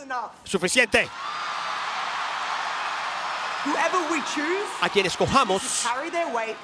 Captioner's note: applause